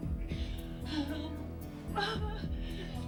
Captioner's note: groaning